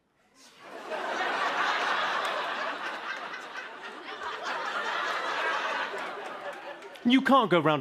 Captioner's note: laughter